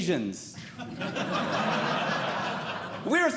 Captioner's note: audience Laughing